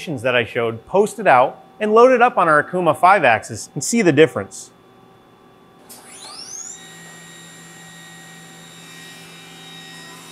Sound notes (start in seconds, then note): 5.8 machine whirring